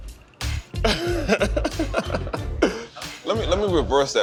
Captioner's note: laughs